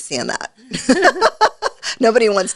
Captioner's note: laughs